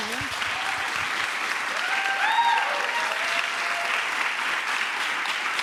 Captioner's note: applause